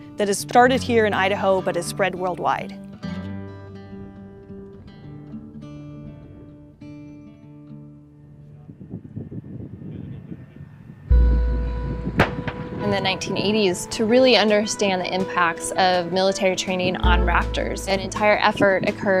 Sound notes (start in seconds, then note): 3.2 soft guitar music; 8.6 wind rushing